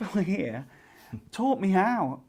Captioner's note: laughs